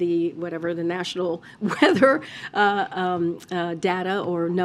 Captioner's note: laughs